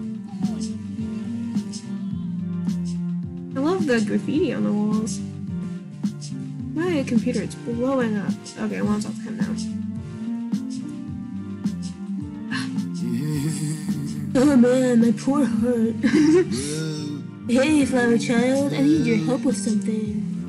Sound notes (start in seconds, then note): 13.7 gasp; 16.1 laughs